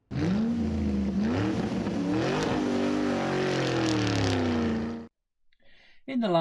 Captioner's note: sound of car revving